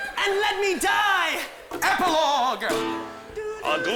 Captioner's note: humming